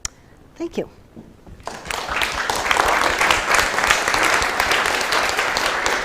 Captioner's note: applause